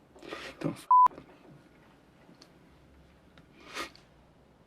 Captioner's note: beep